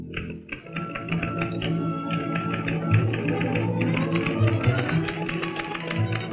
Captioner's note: upbeat orchestral music; typewriter keys clacking